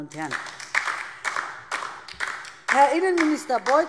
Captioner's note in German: Beifall DIE LINKE